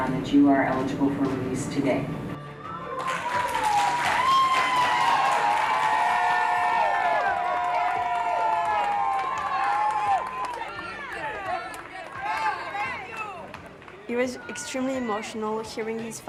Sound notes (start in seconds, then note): 3.1 attendees clap, cheer